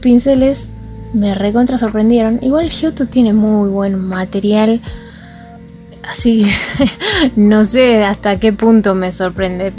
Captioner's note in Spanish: risas